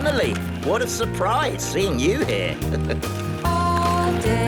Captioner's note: laughing; chuckling